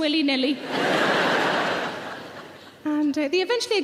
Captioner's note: audience laugh